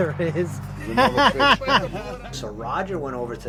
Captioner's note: laughing